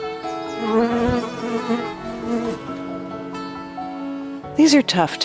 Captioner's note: bees buzzing